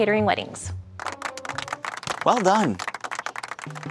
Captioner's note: audience applauding